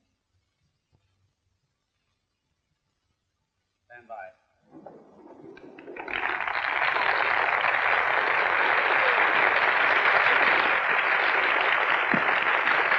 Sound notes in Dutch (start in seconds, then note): 5.1 applaus